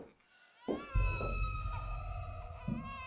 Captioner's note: baby crying